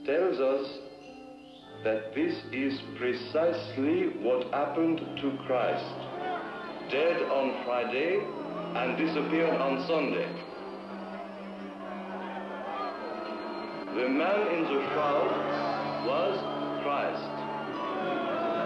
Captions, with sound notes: what happened to Christ, dead on Friday and disappeared on Sunday. (angry voices murmuring) The man in the shroud was Christ. (voices booing)